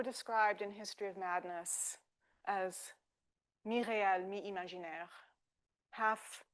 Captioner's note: speaking French